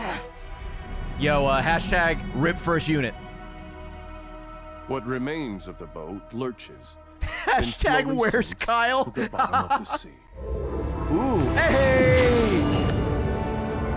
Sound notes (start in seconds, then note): 9.0 laughs